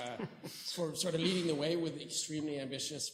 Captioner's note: chuckles